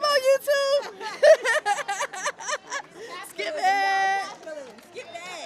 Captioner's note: laughs